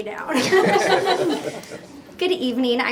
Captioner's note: laughter